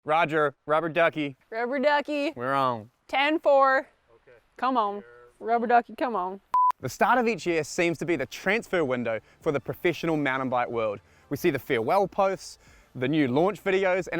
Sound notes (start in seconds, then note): 5.2 cameraman speaking faintly; 6.5 beep